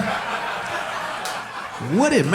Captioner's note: audience laughing